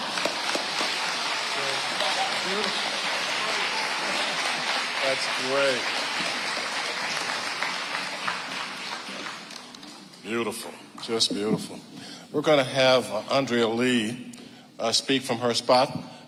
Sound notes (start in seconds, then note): 0.0 audience laughing; 0.0 audience applauding